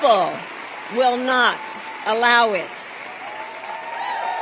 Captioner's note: applause